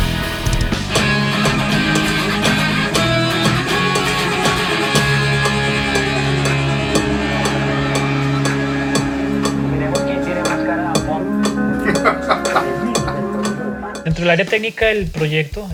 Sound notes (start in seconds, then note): 11.6 laughs